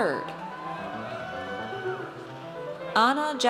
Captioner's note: audience cheers